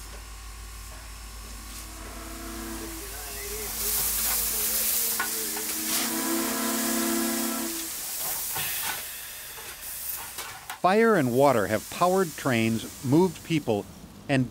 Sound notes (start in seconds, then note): 5.9 train whistle blowing